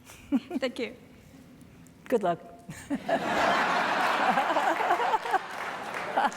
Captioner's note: audience laughing